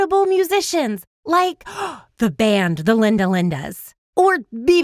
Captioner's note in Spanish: inhala